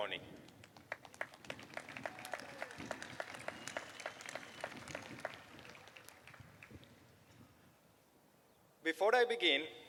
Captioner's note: applause